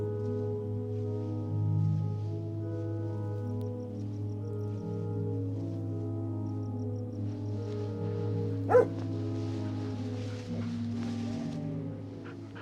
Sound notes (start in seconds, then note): 8.6 barking